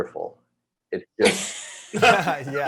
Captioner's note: panelists laughing